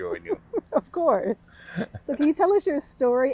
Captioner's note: laughing